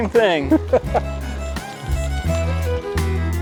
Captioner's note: chuckles